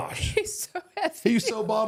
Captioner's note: laughs